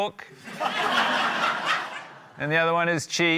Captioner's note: laughter